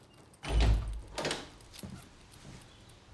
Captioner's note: sound of door opening